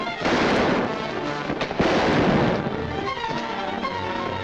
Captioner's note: thrilling music; guns firing; thrilling music